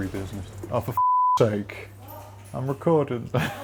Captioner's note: beep; chuckles